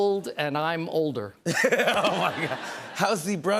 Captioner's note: laughter